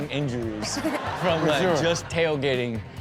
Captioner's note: laughs